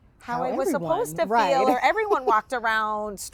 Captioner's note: laughs